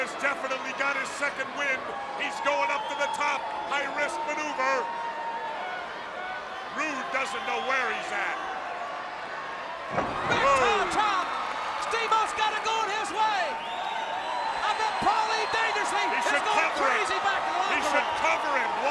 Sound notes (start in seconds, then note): 10.9 crowd cheering